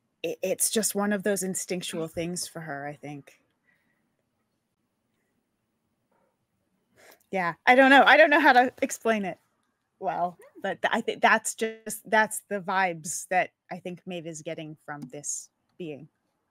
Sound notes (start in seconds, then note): none